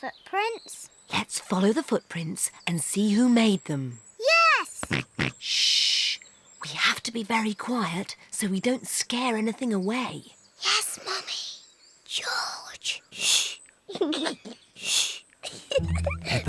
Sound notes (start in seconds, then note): 4.8 snorts; 10.5 whispers; 15.4 giggles